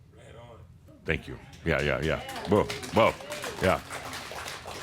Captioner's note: some applause